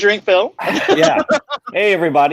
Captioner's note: laughing